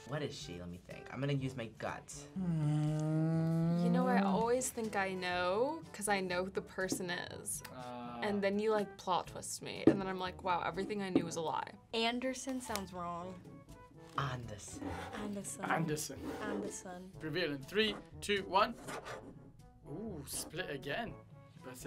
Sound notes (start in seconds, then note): 13.9 accented